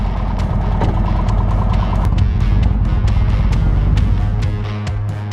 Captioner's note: motorcycle engine rumbling; upbeat music